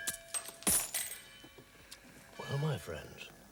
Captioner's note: bell chiming